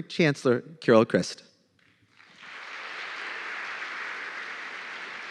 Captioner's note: applause